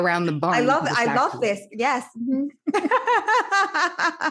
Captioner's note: laughs